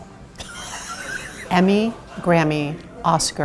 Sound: laughs

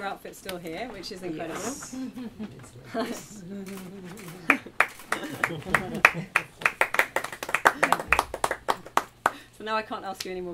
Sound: applause

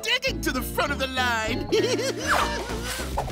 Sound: laughing

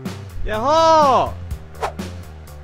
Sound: yelling

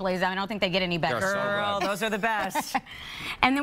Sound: laughter

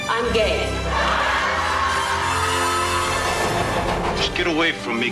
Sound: cheering

